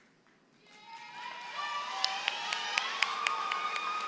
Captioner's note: applause